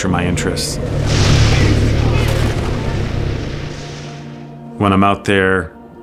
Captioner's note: lightning strikes rough seas as a sea monster growls